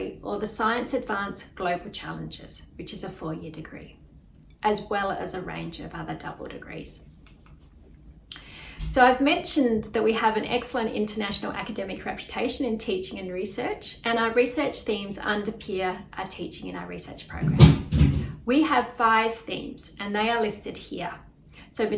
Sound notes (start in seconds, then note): 7.5 mouse clicks; 17.3 loud crashing